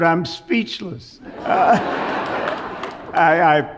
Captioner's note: audience laughs